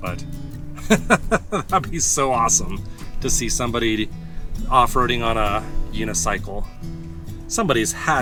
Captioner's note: laughs